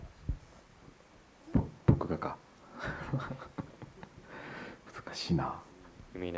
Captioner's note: laughs